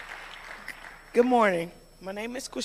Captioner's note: applause